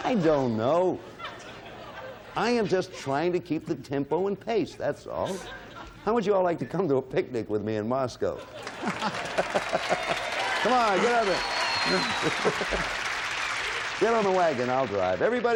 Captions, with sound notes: I don't know. I am just trying to keep the tempo in pace, that's all. How would you all like to come to a picnic with me in Moscow? -(cheering and applause) -Get on the wagon, I'll drive.